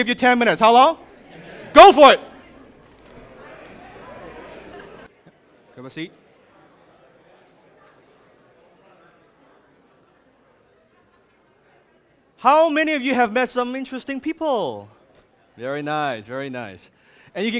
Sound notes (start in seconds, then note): 3.3 audience chattering